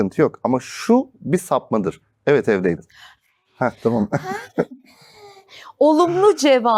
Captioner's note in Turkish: kahkaha